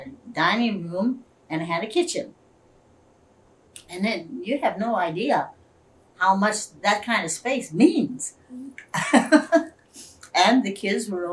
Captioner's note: laughs